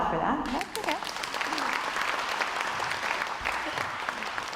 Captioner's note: crowd applauds